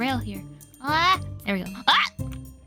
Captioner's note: makes more surprised noises; makes surprised noises